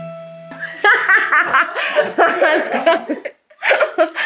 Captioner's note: laughs